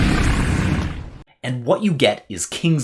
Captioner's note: dragon roars